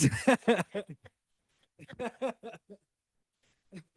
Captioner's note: laughing